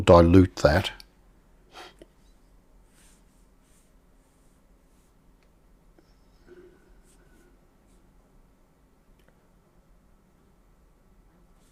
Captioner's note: silence